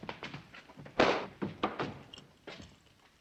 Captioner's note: slap